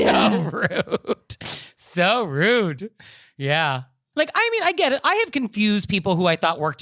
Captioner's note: giggling